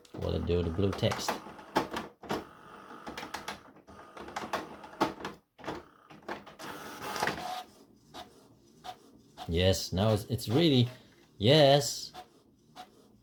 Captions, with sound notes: Will it do the blue text? [The printer's rattling] Yes now, it's really... Yes.